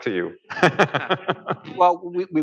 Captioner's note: laughter